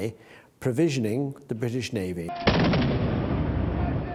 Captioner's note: guns fire